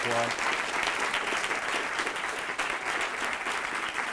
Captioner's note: audience claps